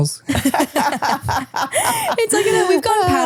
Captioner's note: both laughing